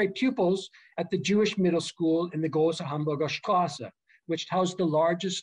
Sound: german

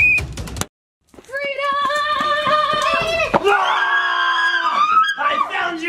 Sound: screams

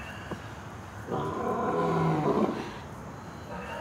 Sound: roaring

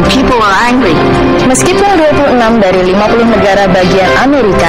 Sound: speaking indonesian

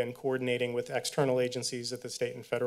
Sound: none

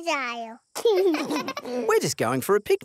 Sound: both laugh

